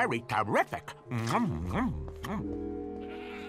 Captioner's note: chomping